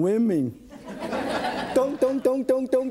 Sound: audience laughs

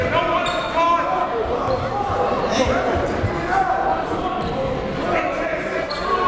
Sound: coaches and players yelling

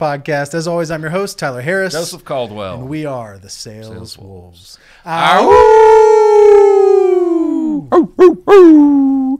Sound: howl

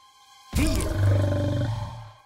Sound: growling

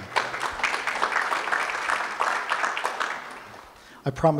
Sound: audience applauds

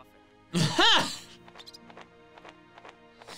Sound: laughing

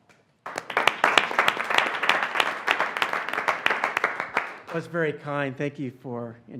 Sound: applause

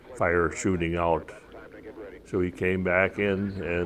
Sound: voice Over Radio

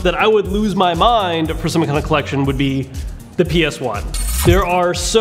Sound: zaps

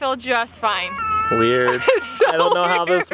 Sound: laughs

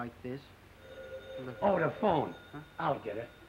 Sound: phone ringing

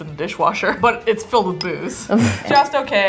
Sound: laughing

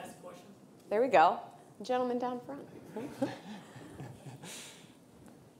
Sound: chuckles

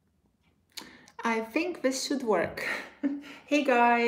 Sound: chuckles

